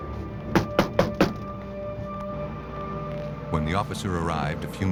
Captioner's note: knocking